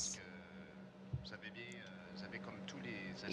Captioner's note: speaking French